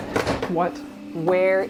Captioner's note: door thuds